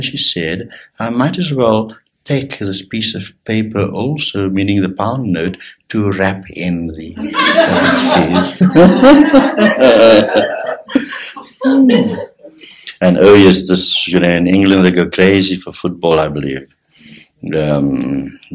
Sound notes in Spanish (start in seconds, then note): 9.7 Risas generales